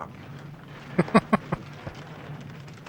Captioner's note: laughing